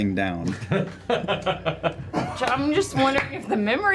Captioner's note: laughter